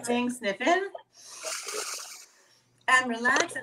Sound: sniffing sound

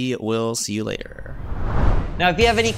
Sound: graphics swoosh

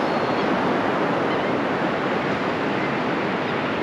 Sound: gulls and Laughing Gulls calling nearby

